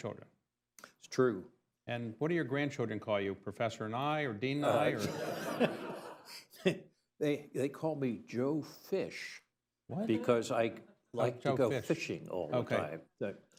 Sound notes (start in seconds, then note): 4.6 laughs; 4.7 laughter